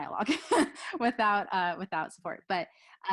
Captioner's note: laughs